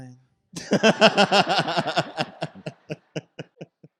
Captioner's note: all laughing